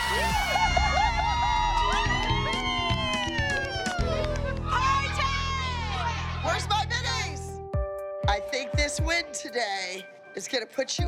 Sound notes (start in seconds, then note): 1.7 cheering